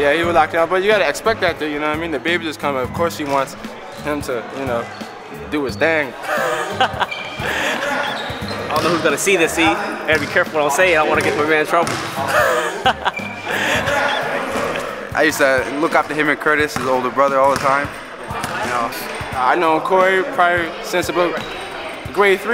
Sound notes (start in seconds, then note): 6.2 laughter